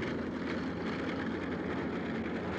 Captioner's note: tank noises